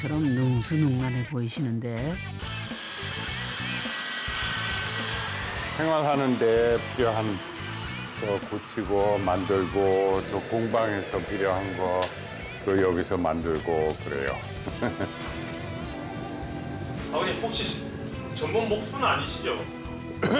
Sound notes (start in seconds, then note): 2.3 whirring sound